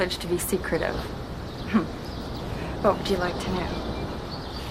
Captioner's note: chuckling